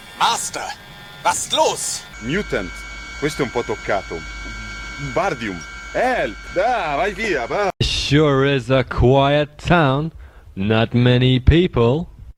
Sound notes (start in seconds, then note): 2.1 bad acting in Italian